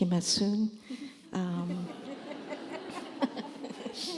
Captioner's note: laughter